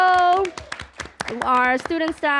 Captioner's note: applause